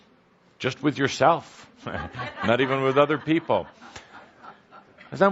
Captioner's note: laughter